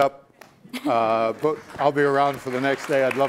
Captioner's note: applauding